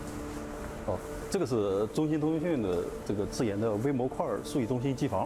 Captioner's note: speaking chinese